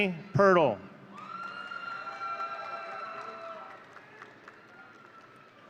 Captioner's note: audience cheering